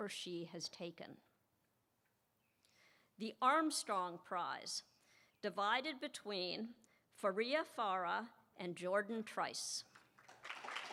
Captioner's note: applause